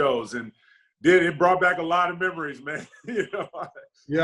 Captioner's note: laughs